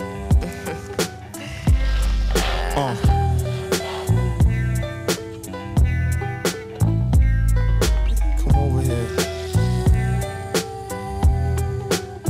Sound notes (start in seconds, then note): 0.1 person laughs; 0.1 person moans